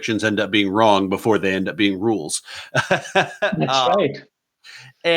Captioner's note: laughing